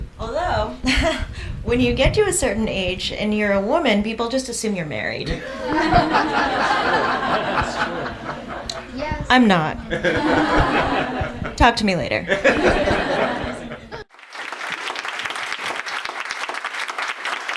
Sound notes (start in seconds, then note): 1.1 laughs; 5.4 audience laughs; 14.0 audience clapping